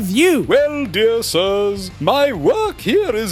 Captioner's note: pompous